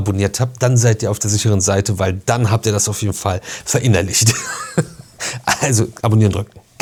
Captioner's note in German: gelächter